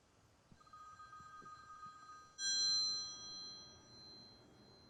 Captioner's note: phone continues ringing